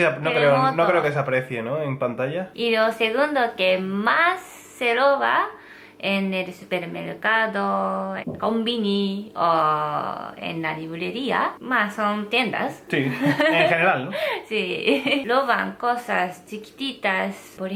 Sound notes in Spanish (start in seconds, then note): 12.4 ríe; 14.9 ríe